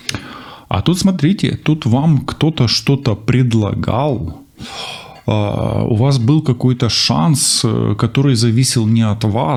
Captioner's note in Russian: вздыхает